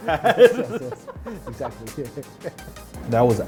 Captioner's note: laughing